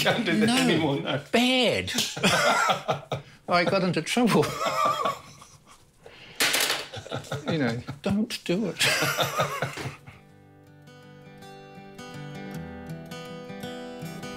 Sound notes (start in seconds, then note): 1.9 laughs; 6.8 laughs; 8.8 calm music